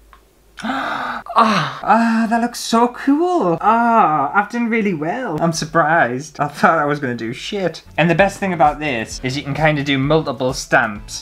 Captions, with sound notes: *GASPS!* Oh that looks so cool! Oh I've done really well, I'm surprised, I thought I was gonna do shit! And the best thing about this is you can kind of do multiple stamps,